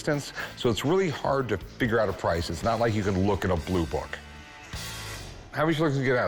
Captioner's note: none